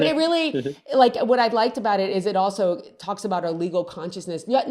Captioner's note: both laugh